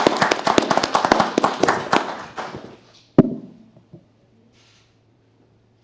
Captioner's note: applause